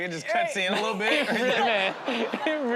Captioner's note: laughter